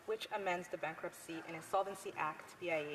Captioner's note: speaking French